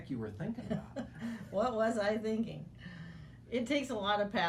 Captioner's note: laughing